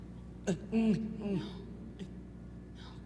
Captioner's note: moans softly